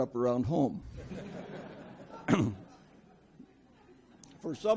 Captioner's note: audience laughs